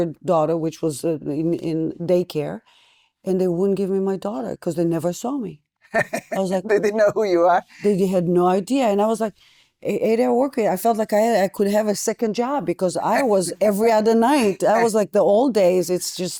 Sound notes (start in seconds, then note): 5.9 laughing